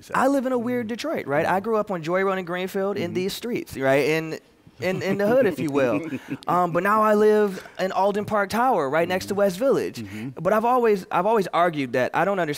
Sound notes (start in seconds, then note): 4.8 laughter